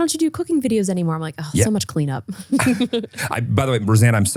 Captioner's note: laughs